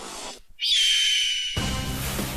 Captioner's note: birdsound